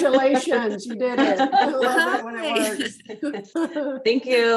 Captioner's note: chuckles